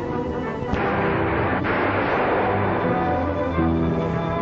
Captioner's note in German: Schuss feuert